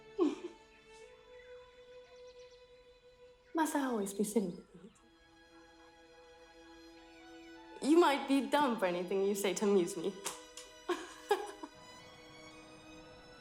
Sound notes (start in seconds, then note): 0.2 giggling; 10.8 laughs